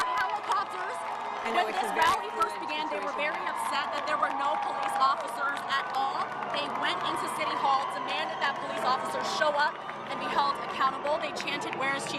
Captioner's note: siren